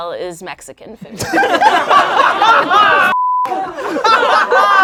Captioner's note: laughing